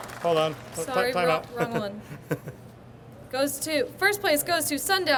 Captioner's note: chuckles